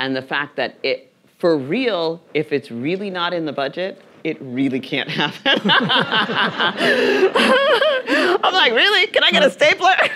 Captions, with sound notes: and the fact that it, for real, if it's really not in the budget, it really can't happen. (laughing) (audience laughing) I'm like, "Really, can I get a stapler?"